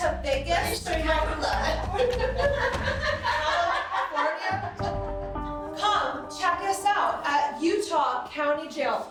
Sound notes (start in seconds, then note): 0.5 laughing